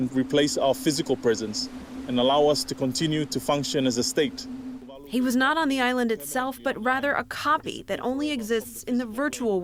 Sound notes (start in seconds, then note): 5.5 voice-over